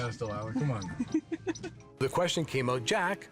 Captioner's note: giggling